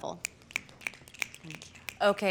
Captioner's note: fingers snapping